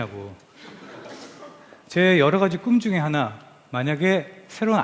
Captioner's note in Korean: 웃음